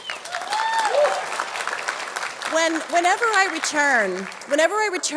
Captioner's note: audience cheering; audience clapping